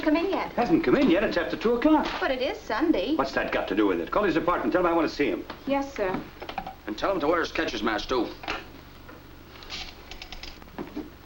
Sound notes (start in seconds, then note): none